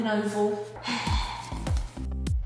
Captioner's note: deep sigh